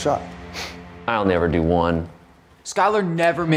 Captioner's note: scoffs